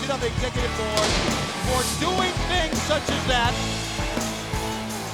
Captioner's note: fireworks exploding